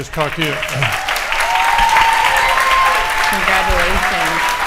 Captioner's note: audience applauding